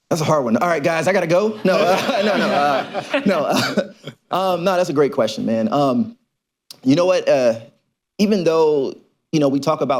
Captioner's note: laughter